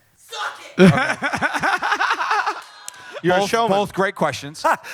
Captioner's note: laughter